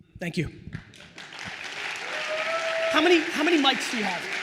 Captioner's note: attendees applauds